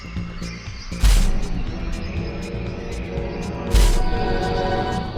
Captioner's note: footsteps stomping